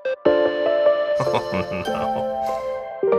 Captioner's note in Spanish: riendo